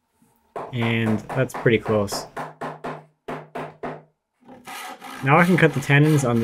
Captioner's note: hammer banging